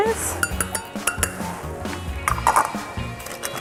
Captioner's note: clinking